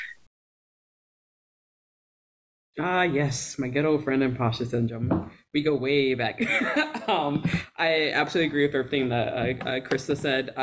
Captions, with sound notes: - Ah yes, my good old friend imposter syndrome. We go way back. (laughs) I absolutely agree with everything that Christa said.